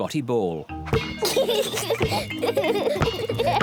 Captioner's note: both laugh